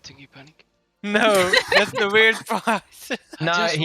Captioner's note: haha